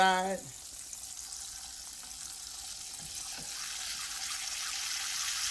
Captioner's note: bologna sizzling